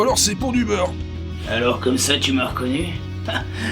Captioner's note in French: Voix de Cow-Boy